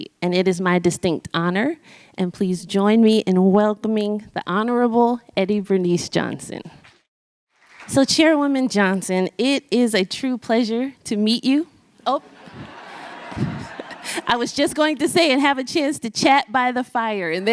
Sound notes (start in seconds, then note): 12.1 audience laughs